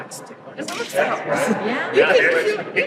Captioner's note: laughing